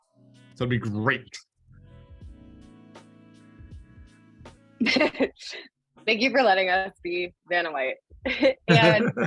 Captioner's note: laughter